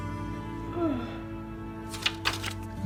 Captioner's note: yawning